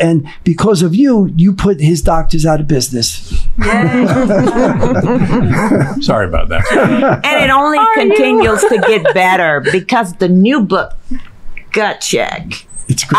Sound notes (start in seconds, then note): 3.6 all laughing